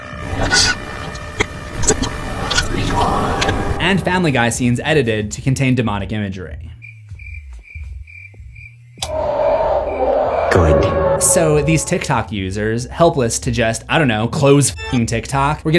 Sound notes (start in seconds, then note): 0.0 glitch sounds; 6.7 crickets; 7.0 demonic cry